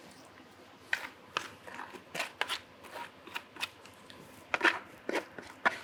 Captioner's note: spatula scraping continues